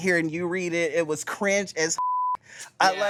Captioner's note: beep